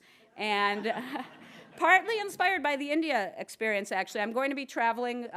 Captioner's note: laugh